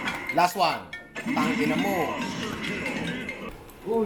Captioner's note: phone ringing; phone ringing